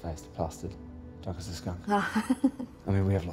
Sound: laughing

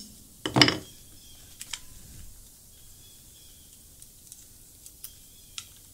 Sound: hammer clacking on surface

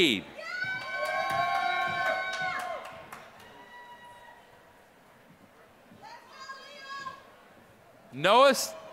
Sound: applause

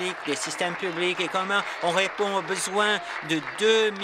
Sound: applause

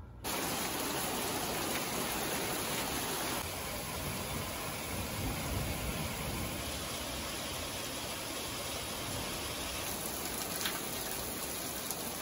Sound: sound of the rain

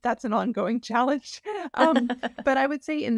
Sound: laughs

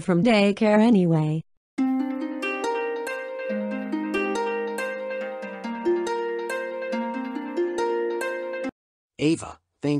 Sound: cell phone ringing

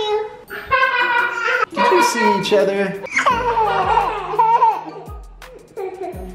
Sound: girls laugh

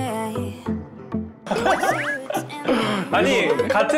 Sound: bursts into laughter

